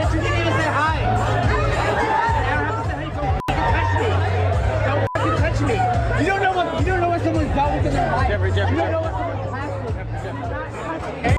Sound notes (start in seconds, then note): 5.0 beep